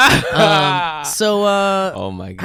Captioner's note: laughs